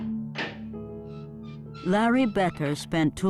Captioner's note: latch opening